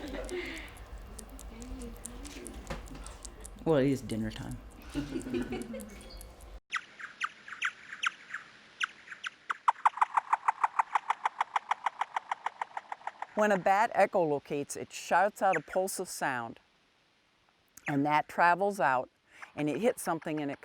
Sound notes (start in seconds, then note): 0.0 group quiet laughter; 4.8 group quiet laughter; 7.0 bats chirping